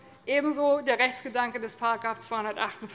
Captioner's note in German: none